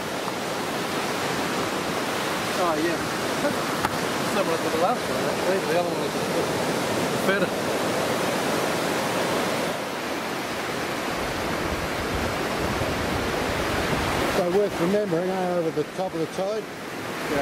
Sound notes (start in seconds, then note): 0.1 waves crashing; 7.8 waves crashing; 12.8 wind rustling